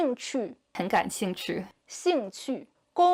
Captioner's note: speaking Chinese